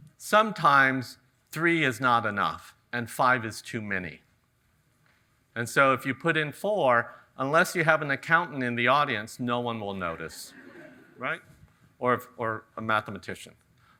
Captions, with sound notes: Sometimes three is not enough and five is too many. And so if you put in four, unless you have an accountant in the audience, no one will notice," right? (audience chuckles) Or a mathematician.